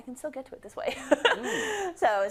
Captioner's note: laugh